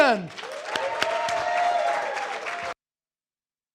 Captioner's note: audience applause